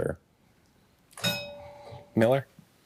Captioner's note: bell dings